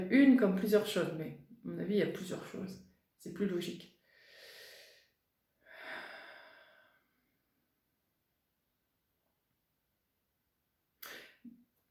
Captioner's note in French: soupir